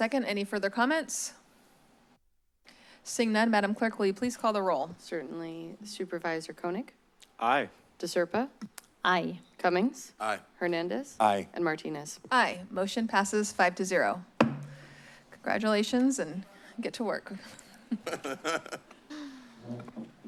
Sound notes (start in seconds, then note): 14.4 bangs gavel; 17.5 laughs